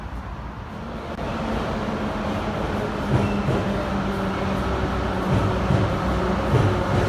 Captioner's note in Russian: прибытие поезда на станцию